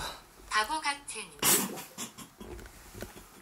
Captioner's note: laugh